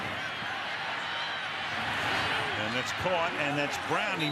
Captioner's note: cheers, applause